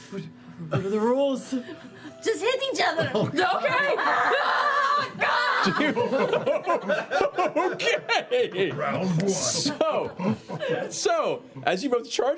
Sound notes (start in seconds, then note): 5.5 laughing